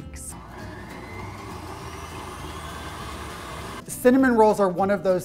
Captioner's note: mixer whirring